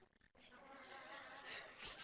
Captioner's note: laughter